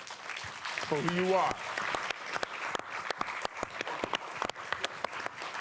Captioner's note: applause